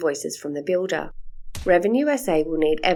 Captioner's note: stamp sound